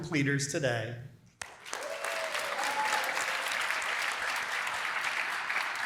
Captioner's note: applause